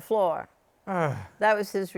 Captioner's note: groans